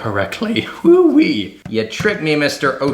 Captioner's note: shouts excitedly